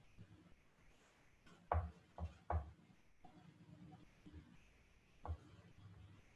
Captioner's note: silence